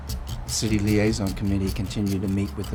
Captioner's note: voiceover